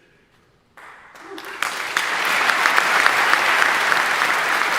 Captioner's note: audience applauding